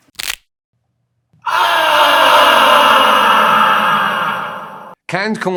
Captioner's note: screams in pain